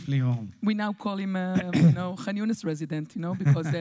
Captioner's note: Hebrew